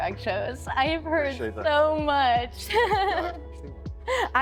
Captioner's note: laughter